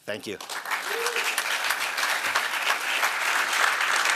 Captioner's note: applause